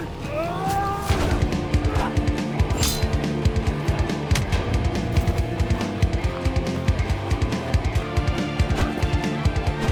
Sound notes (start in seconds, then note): 1.1 both moaning; 2.7 swords clanging; 4.3 dramatic music